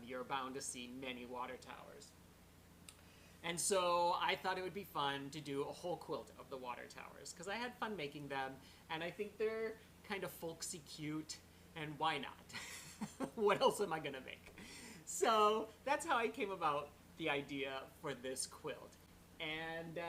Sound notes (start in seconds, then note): 12.5 laughter